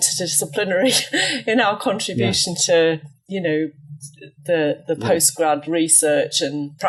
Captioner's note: laughs